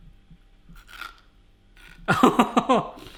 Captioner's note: crunching